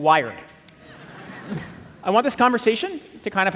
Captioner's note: audience laughing